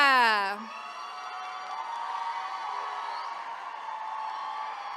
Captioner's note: attendees cheering